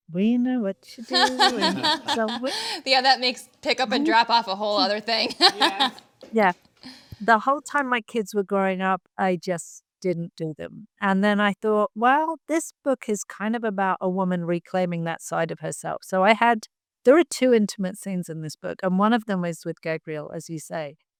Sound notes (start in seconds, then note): 1.0 laughs; 4.7 laughs